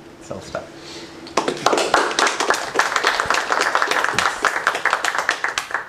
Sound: applause

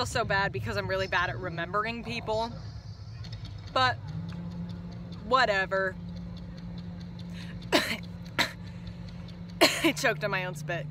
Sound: coughs

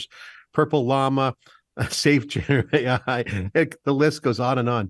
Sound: laughing

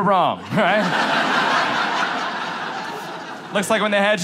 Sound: audience laughs

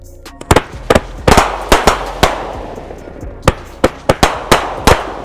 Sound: fireworks popping

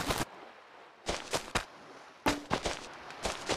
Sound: footsteps

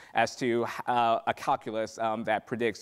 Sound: stammering

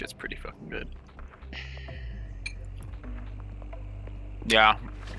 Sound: sighs

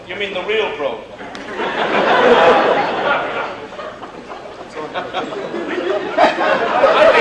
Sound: laughter

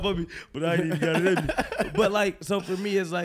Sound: laughing

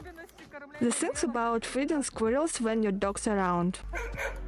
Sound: dog barking

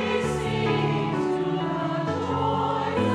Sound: none

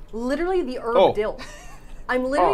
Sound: laughing

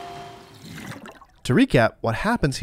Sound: water gurgles

